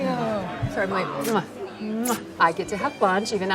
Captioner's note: smacking lips